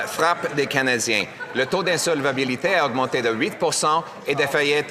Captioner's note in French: voix de l'interprète